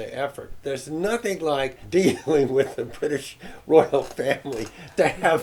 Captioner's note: laughs